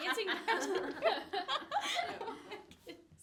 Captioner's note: all laughing